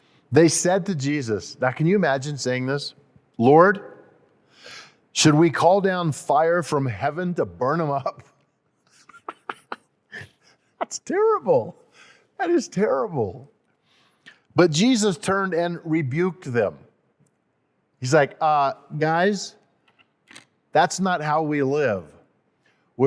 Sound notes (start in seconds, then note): 9.0 laughs